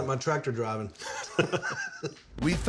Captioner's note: laughter